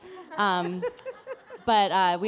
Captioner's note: people laughing